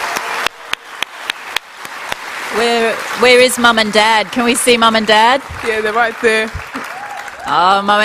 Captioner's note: applause